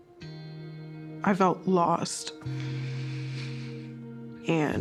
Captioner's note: sniffles